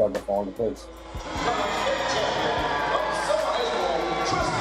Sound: crowd cheering

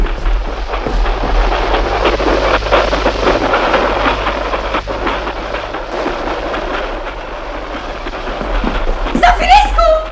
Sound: the noise of the train is approaching

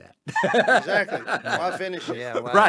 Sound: laughs

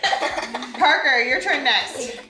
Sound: family laughing

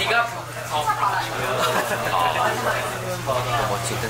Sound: laughing

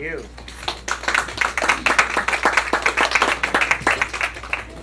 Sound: applause

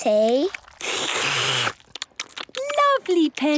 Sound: all slurping

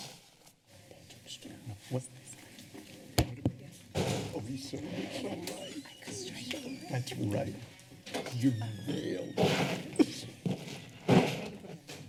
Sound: background conversations

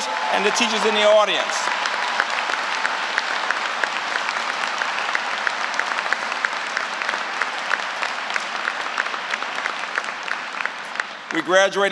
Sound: applause

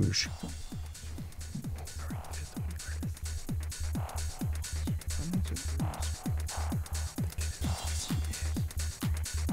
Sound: wispering

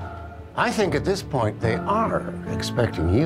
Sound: none

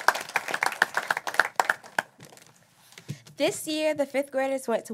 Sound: applause

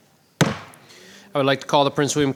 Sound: gavel bangs

